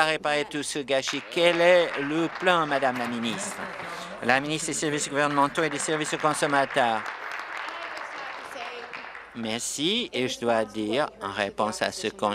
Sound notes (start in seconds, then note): 4.0 applause; 9.0 applause